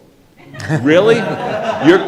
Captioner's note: audience laughing